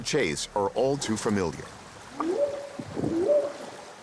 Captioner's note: whooping sound